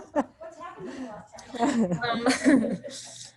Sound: laughter

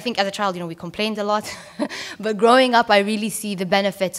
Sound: laughs

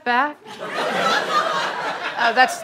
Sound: audience laughter

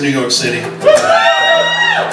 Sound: crowd cheers

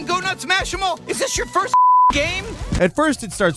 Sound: beep

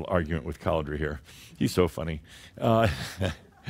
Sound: Adamus chuckles

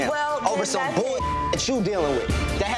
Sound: beep

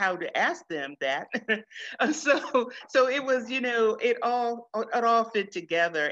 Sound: chuckles

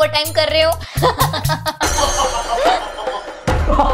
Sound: laughing

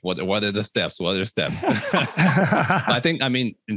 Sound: all laughing

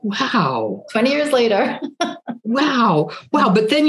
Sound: laughs

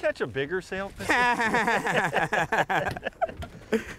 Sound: laughs

